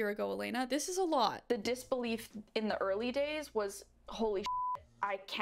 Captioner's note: beep